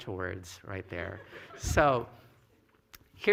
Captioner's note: laughter